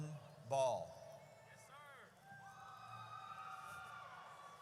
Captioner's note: audience cheers